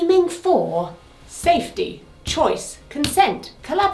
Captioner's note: stick tapping